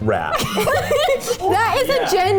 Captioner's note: laughs